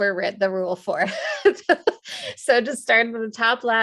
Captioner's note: laughs